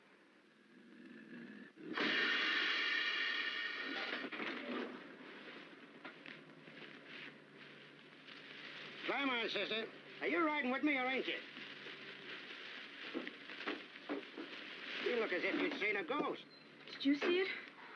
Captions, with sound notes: [LOW GROWLING] [BUS ENGINE] [DOORS OPEN] [WIND BLOWING, BRANCHES RUSTLING] Climb on there, sister. Are you riding with me or ain't you? You look as if you'd seen a ghost. Did you see it?